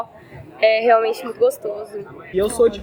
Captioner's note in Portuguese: barulho da plateia se dispersando ao fundo